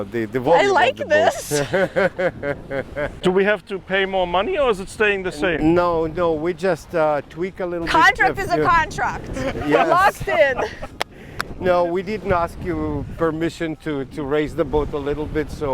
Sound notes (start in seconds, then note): 0.6 laughs; 1.3 chuckles; 9.3 laughs